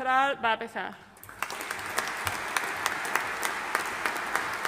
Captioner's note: audience applauding